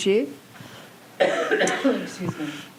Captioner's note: interviewer coughs